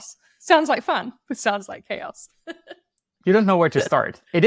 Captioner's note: chuckles